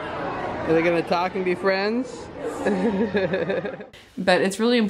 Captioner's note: laughs